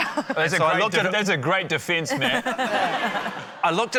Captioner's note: laughter